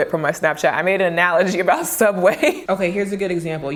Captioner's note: chuckles